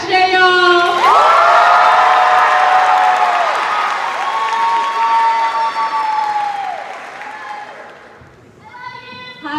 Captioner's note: cheers and applause